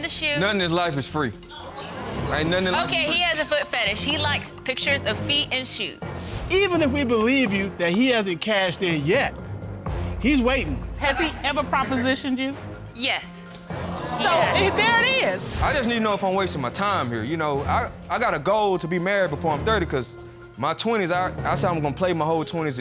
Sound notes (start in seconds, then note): 13.1 audience gasping